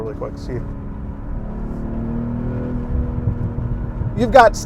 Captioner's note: car sputtering